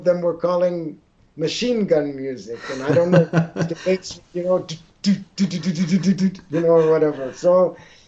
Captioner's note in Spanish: Risas